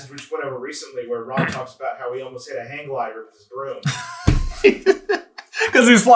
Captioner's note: laughter